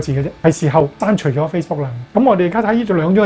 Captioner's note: cantonese interpretation